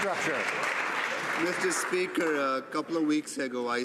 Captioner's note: some Applause